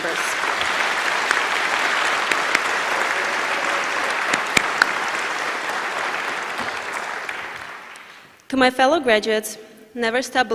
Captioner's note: applause